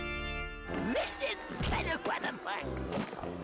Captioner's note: jabbering